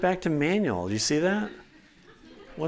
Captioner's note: laughter